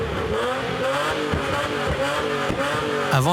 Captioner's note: backfires